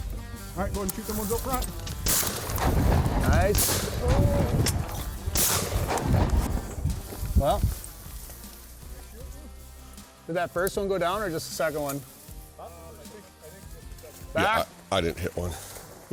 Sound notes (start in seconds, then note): 2.0 gun fires